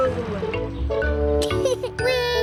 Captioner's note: laughs